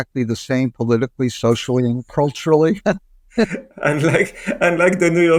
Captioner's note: chuckling